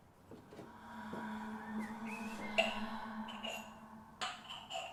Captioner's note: whisperings